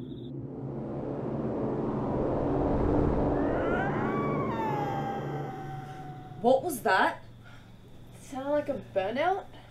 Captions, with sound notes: [OMINOUS SFX] [GHOSTLY GROAN] What was that? Sounded like a... burnout?